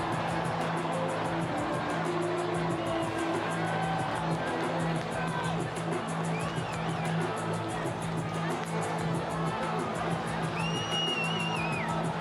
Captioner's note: cheering